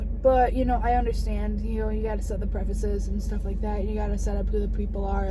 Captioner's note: none